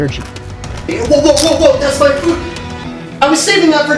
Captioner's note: dinosaur chomping, voice echoing